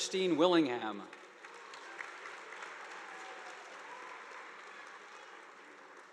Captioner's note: audience applauding